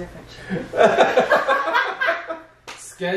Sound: laughter

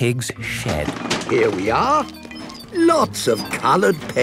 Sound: bangs and rattles

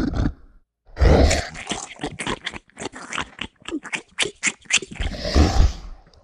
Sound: snarls; chomps; exhales

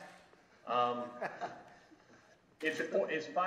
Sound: laughs

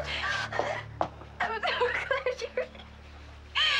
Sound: crying

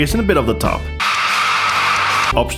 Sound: loud Norwegian noises on VHS

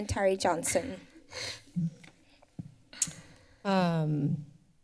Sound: silence

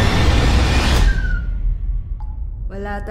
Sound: door opens

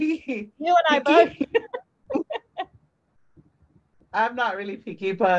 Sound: laughs

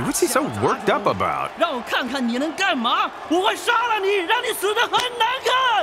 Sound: Taunting in Chinese

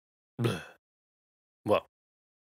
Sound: groans

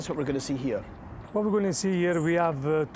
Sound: with Italian accent

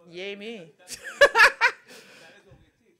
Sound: laughs

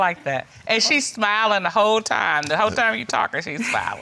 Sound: laughs

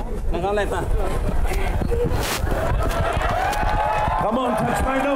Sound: speaking native language; cheers and applause

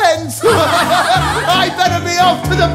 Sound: laughter

